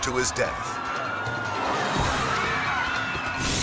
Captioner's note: screams